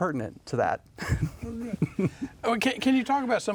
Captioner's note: chuckles